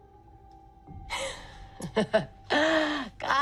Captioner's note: laughs